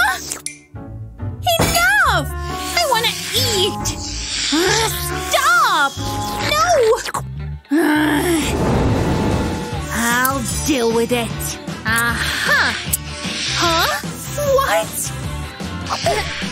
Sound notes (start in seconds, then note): 5.2 making angry sounds